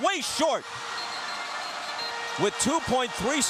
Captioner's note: whistle blows